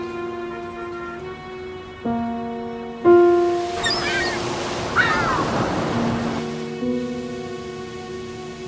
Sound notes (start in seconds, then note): 0.0 light orchestral music continues; 3.7 birds squawking